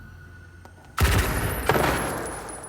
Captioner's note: gunshots in videogame